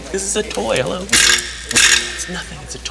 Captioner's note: electric discharge